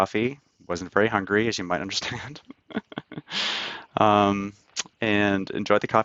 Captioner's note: laughs